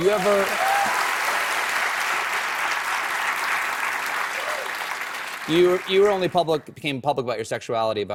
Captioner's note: applause